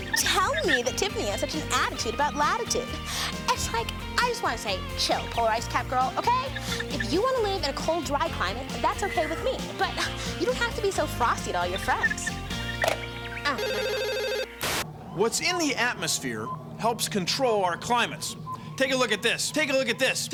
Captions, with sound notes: TELL ME THAT TIFFANY HAS SUCH AN ATTITUDE ABOUT LATITUDE. IT'S LIKE, I JUST WANT TO SAY, "CHILL, POLAR-ICE-CAP GIRL, OKAY?" IF YOU WANT TO LIVE IN A COLD, DRY CLIMATE, THAT'S OKAY WITH ME, BUT YOU DON'T HAVE TO BE SO FROSTY TO ALL YOUR FRIENDS. OH... [ TELEPHONE RINGS ] WHAT'S IN THE ATMOSPHERE HELPS CONTROL OUR CLIMATES. TAKE A LOOK AT THIS -- TAKE A LOOK AT THIS --